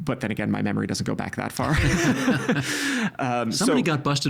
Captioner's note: both laughing